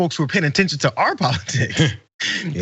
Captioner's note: laugh